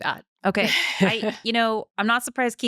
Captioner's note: laughing